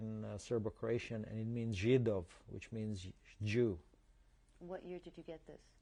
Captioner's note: non-english